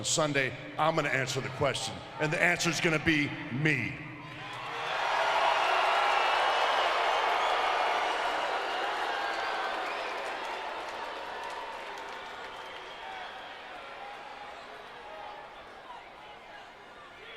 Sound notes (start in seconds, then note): 4.6 crowd cheering; 10.2 crowd chattering